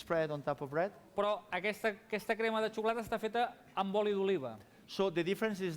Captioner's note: non-english speech